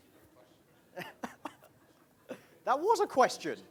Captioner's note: laughing